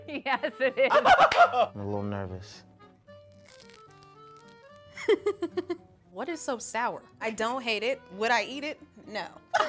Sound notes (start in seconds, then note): 0.1 both laughing; 5.1 laughing; 9.5 both laughing